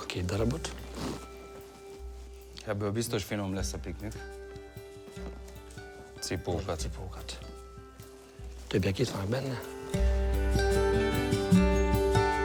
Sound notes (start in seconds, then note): 2.7 speaking in foreign language